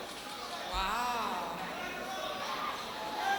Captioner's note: crowd cheering